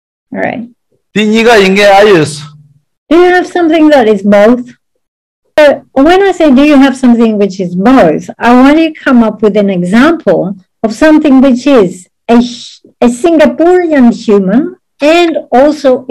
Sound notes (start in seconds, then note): 1.7 speaking in foreign language